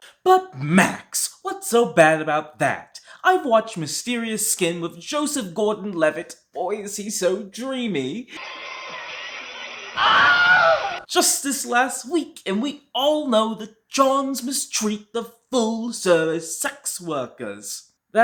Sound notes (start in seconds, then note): 10.0 Wilhelm Scream